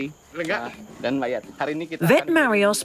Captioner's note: in foreign language